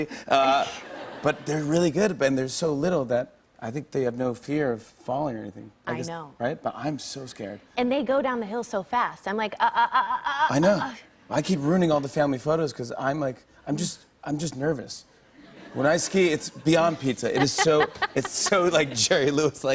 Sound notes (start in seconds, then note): 13.9 light laughter